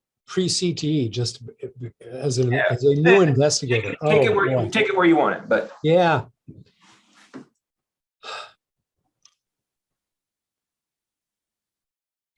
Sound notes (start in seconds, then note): 8.2 sighs heavily